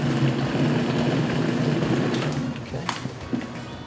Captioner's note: blender whirs